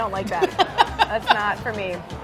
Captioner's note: laughing